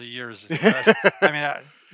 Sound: laughs

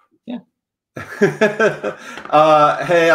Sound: laughs

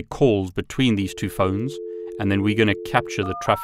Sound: dial tone buzzing

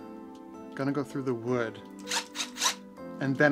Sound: drill turns

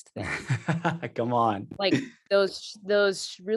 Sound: chuckling

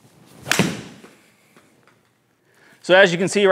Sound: golf club thudding

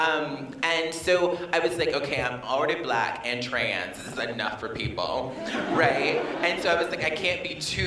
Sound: laughter

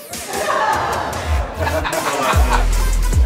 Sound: laughter

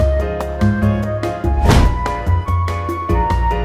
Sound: hard stamp sound

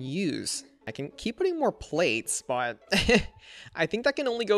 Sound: laughs

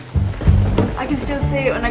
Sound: carefree music; lightning cracks

